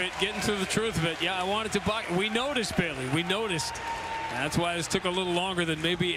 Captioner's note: cheers and applause